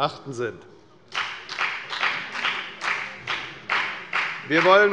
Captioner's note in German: Beifall bei der FDP